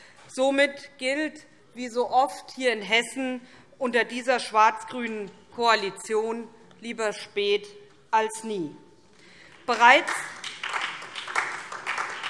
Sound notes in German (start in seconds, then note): 9.5 Beifall SPD